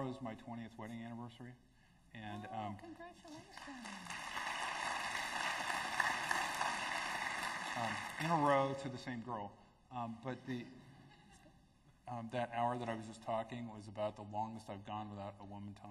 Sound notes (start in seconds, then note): 7.5 applause; 10.6 laughter